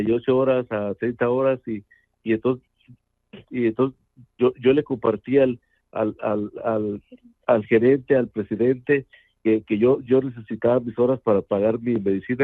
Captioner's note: speaking in Spanish